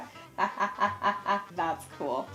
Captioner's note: laughing